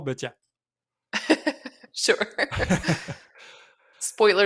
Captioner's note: laughs